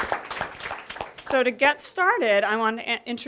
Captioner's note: applause